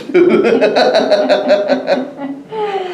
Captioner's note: laughter